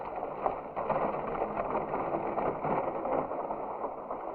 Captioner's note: horses clopping